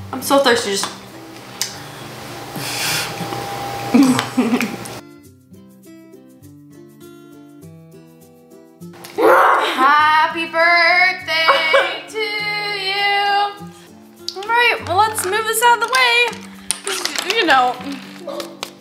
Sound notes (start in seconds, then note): 3.9 chuckles; 9.2 growls